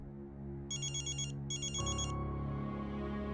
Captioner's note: mobile phone ringing